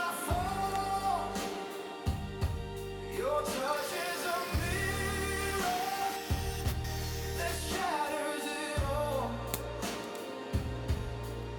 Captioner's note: grinding metal